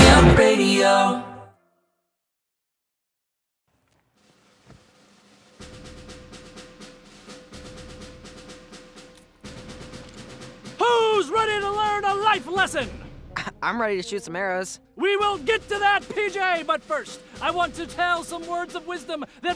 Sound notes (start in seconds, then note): 6.0 military drumming; 13.3 chuckles